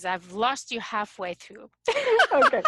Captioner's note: laughs